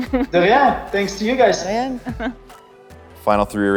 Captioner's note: speaking in foreign language